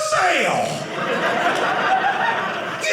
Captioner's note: audience laughing